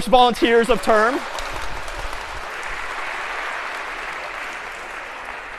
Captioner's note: applause